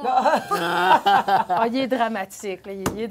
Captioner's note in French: rires